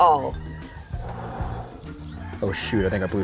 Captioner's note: blows